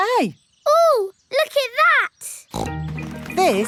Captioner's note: snorts